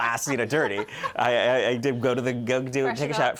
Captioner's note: laughter